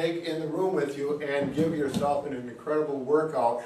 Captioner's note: ball bouncing